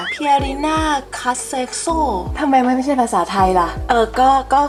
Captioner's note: now it sounds Italiano